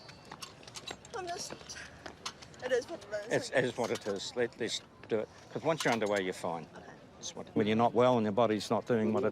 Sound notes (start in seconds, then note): 2.1 sighs